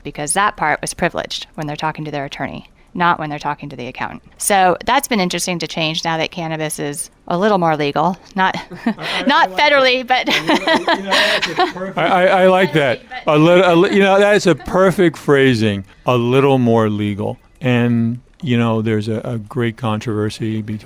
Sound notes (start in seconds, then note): 8.5 chuckles; 10.8 laughing